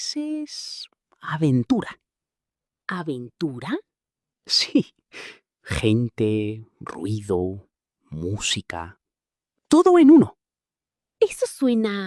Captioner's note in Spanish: resoplido